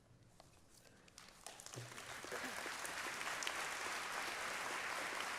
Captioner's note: applause